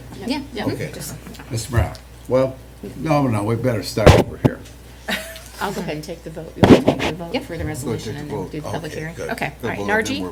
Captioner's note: laughter